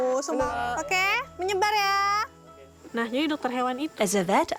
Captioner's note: speaking in foreign language